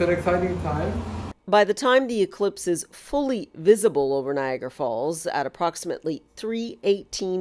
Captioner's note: voice-over